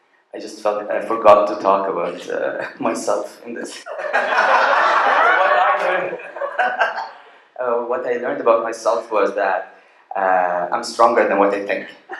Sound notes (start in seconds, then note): 3.8 laughter